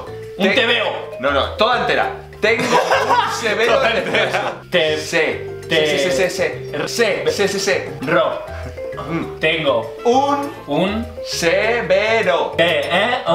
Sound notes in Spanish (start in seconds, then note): 2.6 risas